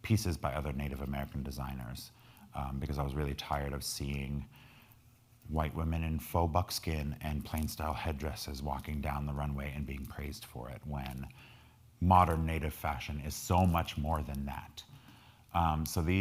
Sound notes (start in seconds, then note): none